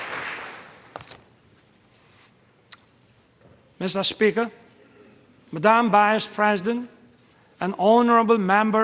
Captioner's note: applause